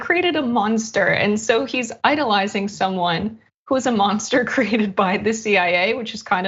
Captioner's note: laugh